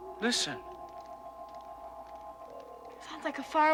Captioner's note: crystal chiming